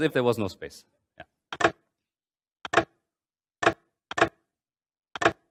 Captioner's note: mechanical clacking